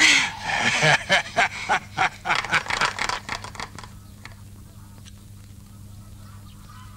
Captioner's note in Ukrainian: сміх; оплески